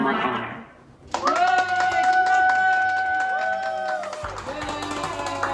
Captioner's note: families cheering